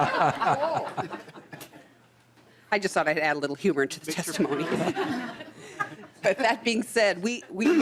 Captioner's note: laughing